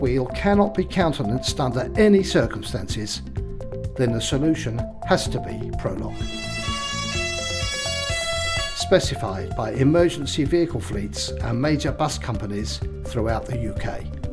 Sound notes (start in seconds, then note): 6.1 ambulance siren